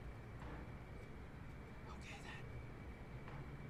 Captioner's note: whispers